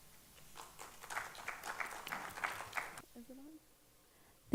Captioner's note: audience applauding